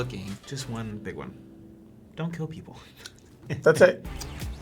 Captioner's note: chuckles